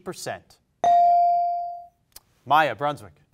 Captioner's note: bell rings